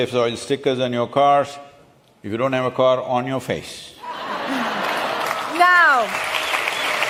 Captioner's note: laughter/Applause